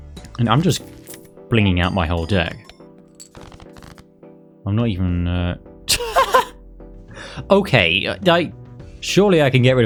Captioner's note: laughs